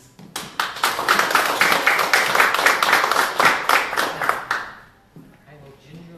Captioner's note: applause